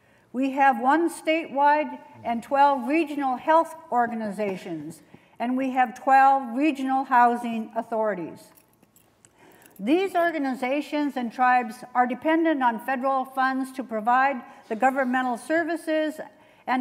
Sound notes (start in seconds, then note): none